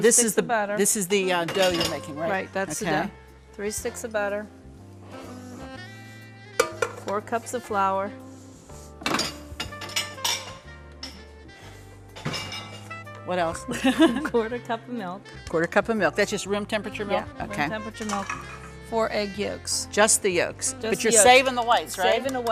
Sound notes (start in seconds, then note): 5.6 festive music; 13.7 laughs